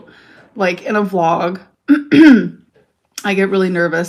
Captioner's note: clears throat